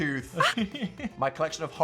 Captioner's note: Phil laughs